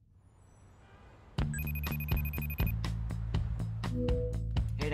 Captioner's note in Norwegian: telefonen ringer